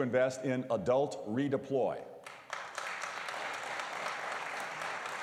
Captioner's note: applause